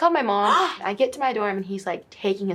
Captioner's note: interviewer gasps